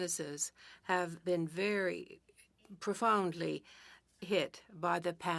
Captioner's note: speaking French